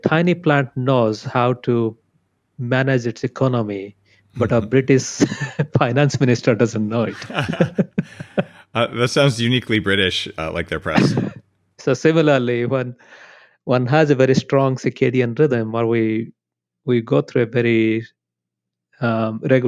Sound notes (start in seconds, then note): 7.0 both laugh